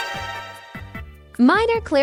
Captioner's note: MGS alert sound